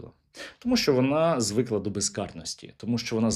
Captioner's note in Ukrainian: сопіння